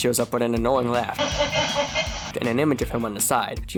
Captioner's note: laughs